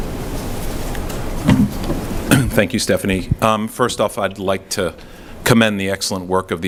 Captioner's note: clears throat